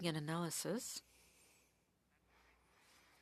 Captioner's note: speaking French